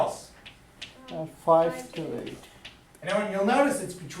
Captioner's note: voiceover